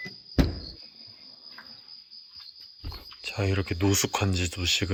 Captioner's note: cricket sound